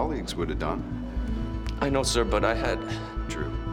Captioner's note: sighs